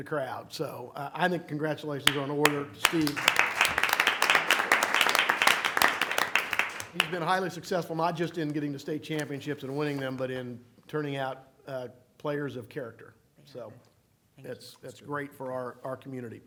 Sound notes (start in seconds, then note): 2.4 applause